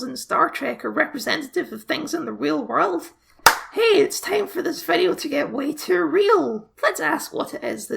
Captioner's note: clap